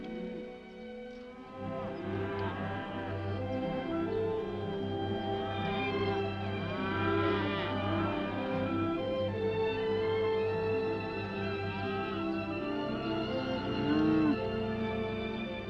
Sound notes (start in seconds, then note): 0.0 gentle upbeat music; 2.2 cows mooing; 5.5 gentle upbeat music; 6.6 cows mooing; 10.1 gentle upbeat music; 13.5 cows mooing